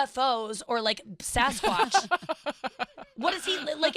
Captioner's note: laughing